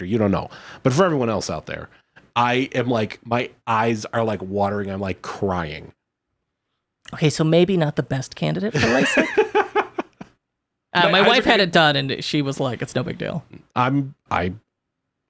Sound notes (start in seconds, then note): 8.7 laughing